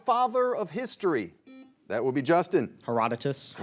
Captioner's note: buzzer beeps